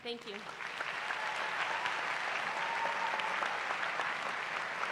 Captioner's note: cheering